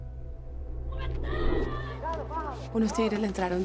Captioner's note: indeterminate screams